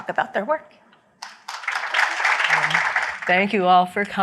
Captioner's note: applause